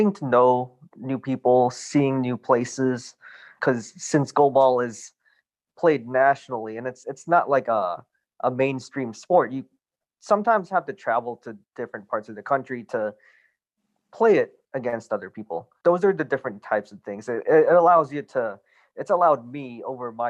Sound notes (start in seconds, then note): none